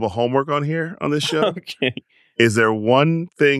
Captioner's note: laughs